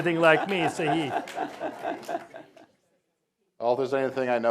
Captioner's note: laughter